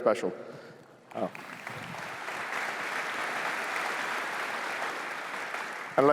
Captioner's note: applause